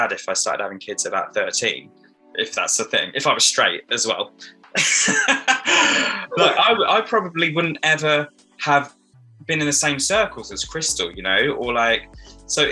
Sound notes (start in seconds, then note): 4.7 laughing